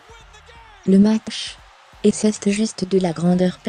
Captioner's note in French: acclamations de la foule